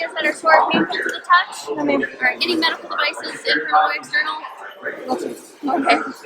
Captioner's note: laughs